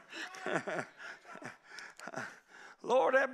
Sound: crowd shouting

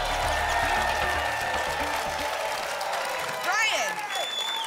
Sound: applause continues

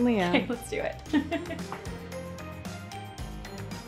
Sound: giggles; upbeat music

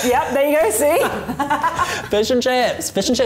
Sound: laughs

